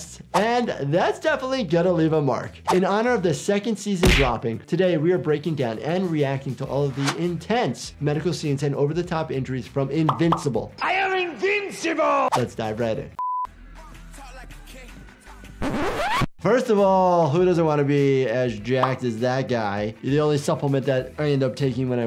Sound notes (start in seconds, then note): 13.5 video beeps; 13.6 funky song plays